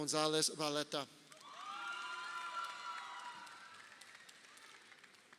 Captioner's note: crowd cheering